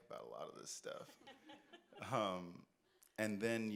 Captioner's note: audience laughs